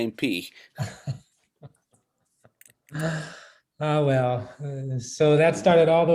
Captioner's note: laughs